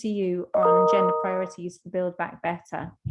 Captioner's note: computer beeps